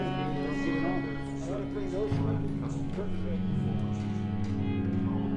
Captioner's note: people chattering in background